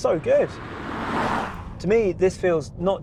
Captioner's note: car roaring